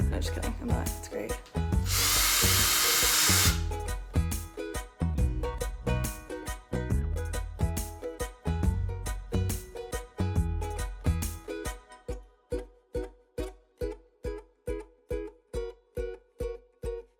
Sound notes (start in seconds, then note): 1.8 drilling; 4.3 slow upbeat music